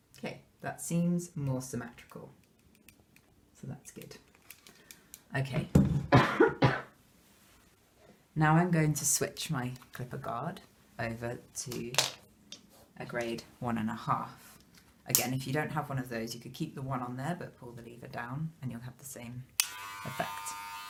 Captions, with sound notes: 'Kay, that seems more symmetrical so that's good, okay. [COUGHING] Now I'm going to switch my clipper guard over to, a grade 1 & 1/2. Again, if you don't have one of those you could keep the one on there, but pull the lever down and you'll have the same - effect.